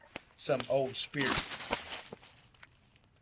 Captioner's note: rustling noise